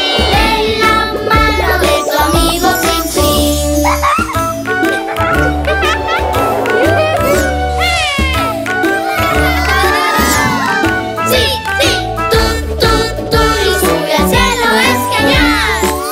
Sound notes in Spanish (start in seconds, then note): 3.8 Risas; 3.9 Música alegre